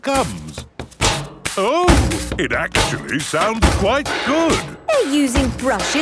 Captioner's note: rhythmic clanging